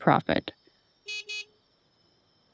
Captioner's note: horn honking